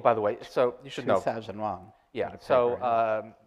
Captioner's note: speaks in foreign language